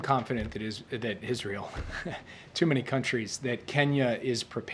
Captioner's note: laughs